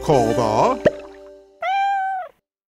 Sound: meowing

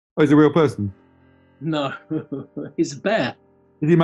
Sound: chuckles

